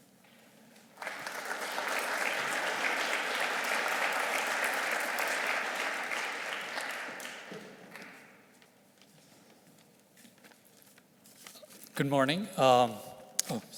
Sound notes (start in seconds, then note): 0.8 audience clapping; 8.4 shuffling